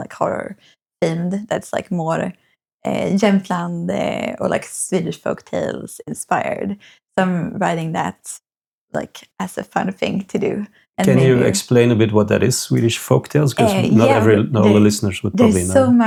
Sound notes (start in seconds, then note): 2.2 speaking in foreign language